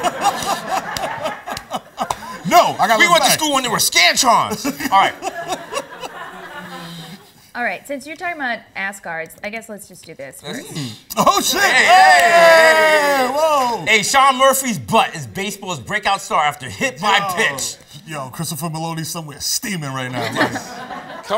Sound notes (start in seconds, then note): 0.0 laughs; 5.7 laughs; 20.1 laughter